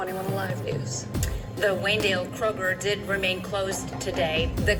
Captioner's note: on TV